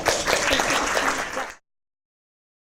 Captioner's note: audience clapping